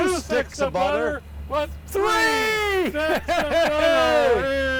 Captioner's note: laughs